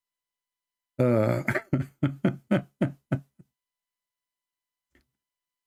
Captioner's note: Ketawa